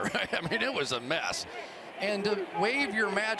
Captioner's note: chuckles